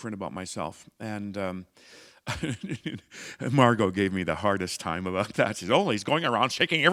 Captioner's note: chuckle